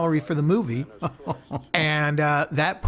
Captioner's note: laughing